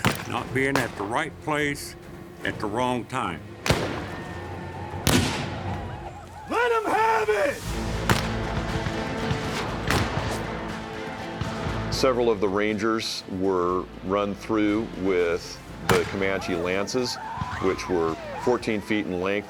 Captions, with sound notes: NOT BEING AT THE RIGHT PLACE AT THE WRONG TIME. [GUNSHOTS] LET 'EM HAVE IT! [GUNFIRE] SEVERAL OF THE RANGERS WERE RUN THROUGH WITH THE COMANCHE LANCES WHICH WERE FOURTEEN FEET IN LENGTH.